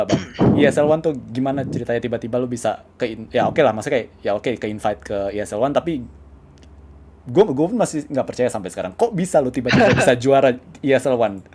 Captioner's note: laugh